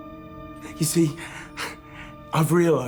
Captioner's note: chuckles